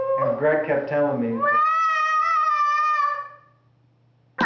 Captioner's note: sound of child playing with toys